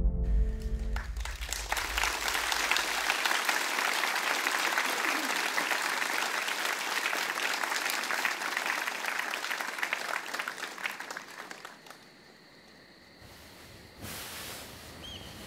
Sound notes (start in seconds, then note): 0.6 applause